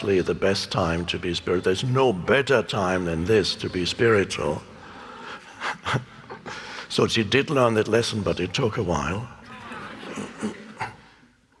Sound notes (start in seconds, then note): 5.3 giggles; 9.4 laughs